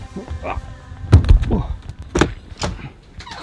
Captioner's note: grunts; door creaks